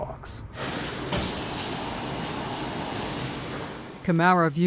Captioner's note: machines whirring